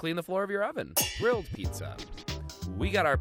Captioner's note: metal clangs